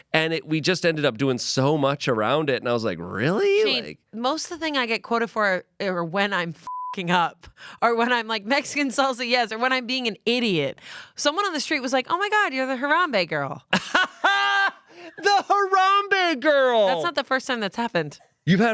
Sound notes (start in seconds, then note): 6.6 beep; 13.8 laughs